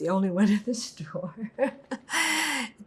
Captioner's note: laughing